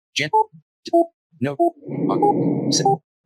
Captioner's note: audio tones